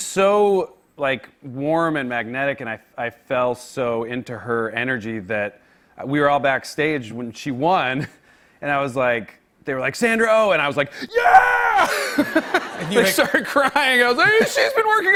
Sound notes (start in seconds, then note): 11.8 laughter